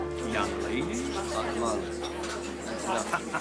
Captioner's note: all chatting